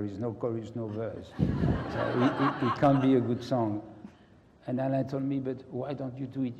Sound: laugh

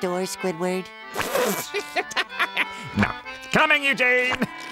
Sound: laughing

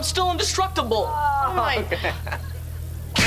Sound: chuckles

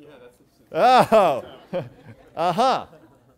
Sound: laughter

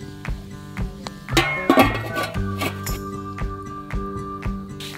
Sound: man whistling

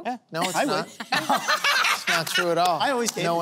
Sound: laughter

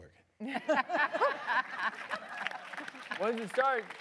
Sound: audience applause

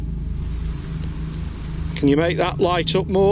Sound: device beeps

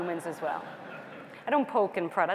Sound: laughter

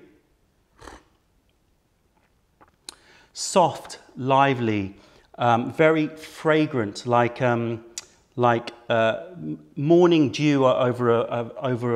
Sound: sips tea

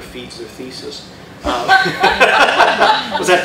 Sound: laughter

